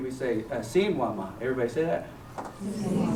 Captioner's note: non-english speech